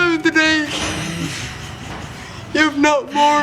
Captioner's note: laughter